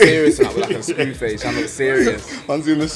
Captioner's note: laughs